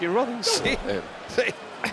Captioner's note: laugh